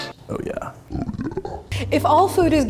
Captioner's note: spooky voice